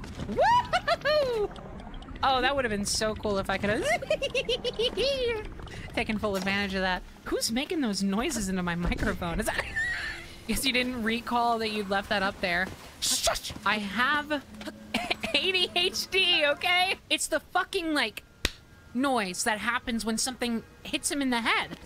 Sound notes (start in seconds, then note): 3.8 panicked Hehehe-ing; 9.6 wheezing; 18.2 smack